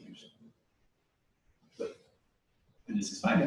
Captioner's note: pause